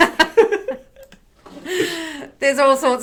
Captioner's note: laughing